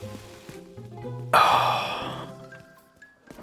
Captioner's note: sighs